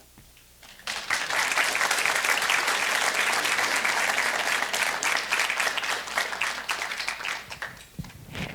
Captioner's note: applause